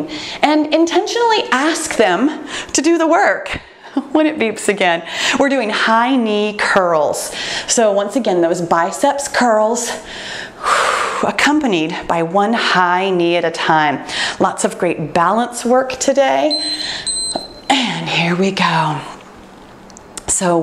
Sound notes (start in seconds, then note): 16.4 timer beeps